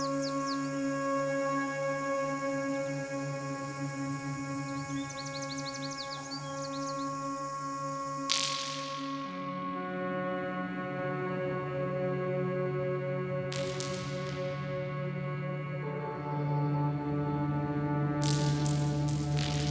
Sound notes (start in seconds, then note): 8.3 cavernous sound of pebbles, rocks, clattering against silo walls